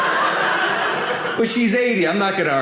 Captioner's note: audience laughing